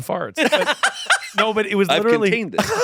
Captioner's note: laughing